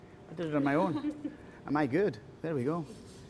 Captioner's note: all chuckling